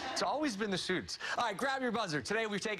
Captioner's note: laughter